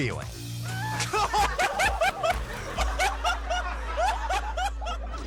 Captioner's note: man laughing